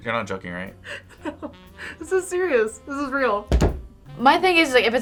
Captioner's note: React laughs